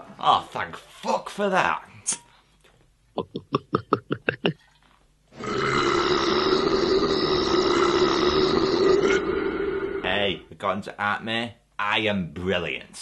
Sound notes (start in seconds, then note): 2.3 glugging sounds; 5.3 long burp